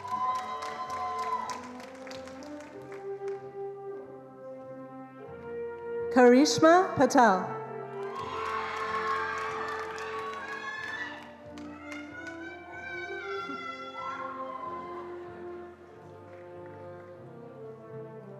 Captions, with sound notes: (attendees applauding) Karishma Patel. (attendees cheering and applauding)